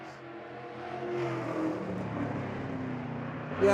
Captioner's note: car engine accelerating